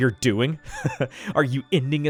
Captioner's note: chuckles